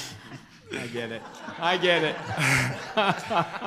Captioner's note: group laughter